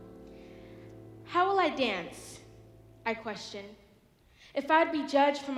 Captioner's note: none